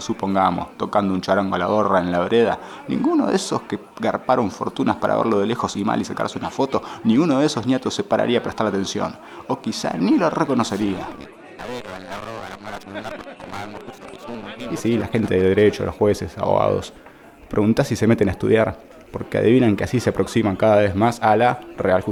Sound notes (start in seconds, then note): 12.8 telephone